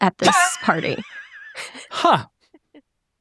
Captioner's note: chuckling